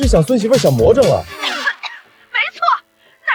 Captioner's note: coughing